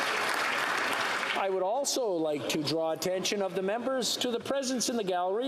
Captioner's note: applause